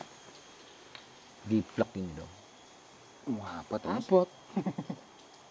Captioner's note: laughs